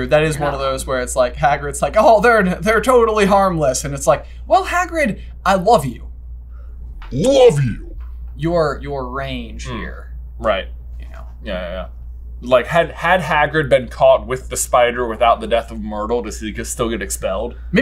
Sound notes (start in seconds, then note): 6.3 deep and slow